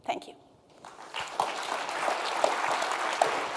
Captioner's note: applause